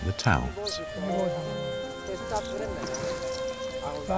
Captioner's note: people chattering